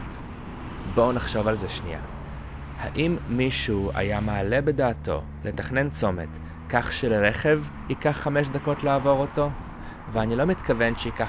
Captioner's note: a car